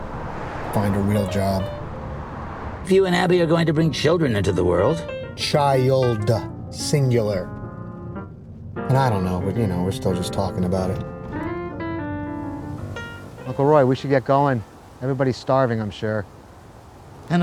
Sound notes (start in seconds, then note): none